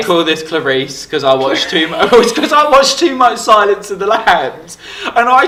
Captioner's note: laughs